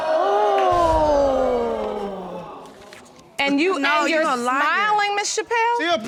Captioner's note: audience exclaims